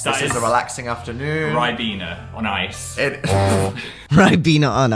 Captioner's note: laugh